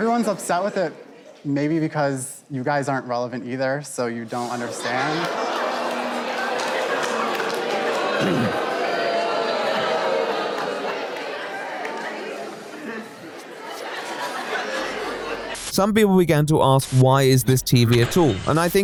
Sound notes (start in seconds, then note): 4.4 audience disagreement